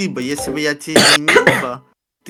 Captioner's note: cough